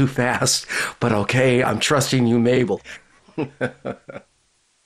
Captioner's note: laughter